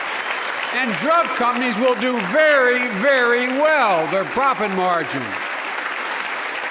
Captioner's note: applause